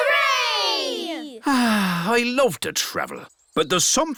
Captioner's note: sighs